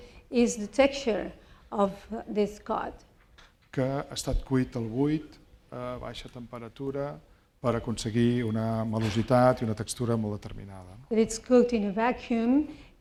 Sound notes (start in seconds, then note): 4.6 speaking spanish